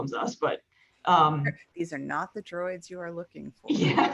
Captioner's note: laughing